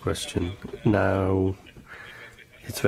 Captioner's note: laughter